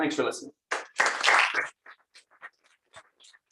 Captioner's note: applause